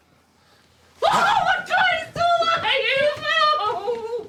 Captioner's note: screaming